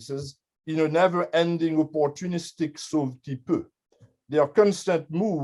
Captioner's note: french